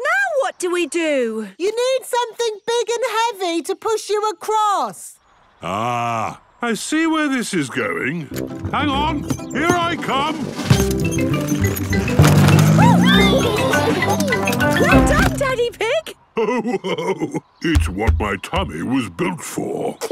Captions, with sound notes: - Now what do we do? - You need something big and heavy to push you across! - Ah. I see where this is going. Hang on! Here I come! - Oh! - Wee! (giggles) - Well done, Daddy Pig. (laughing) - It's what my tummy was built for!